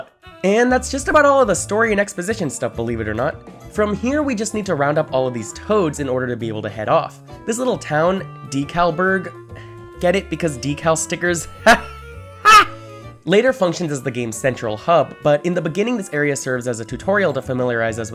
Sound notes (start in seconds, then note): 9.4 sigh